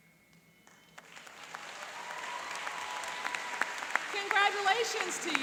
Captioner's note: applauding and cheering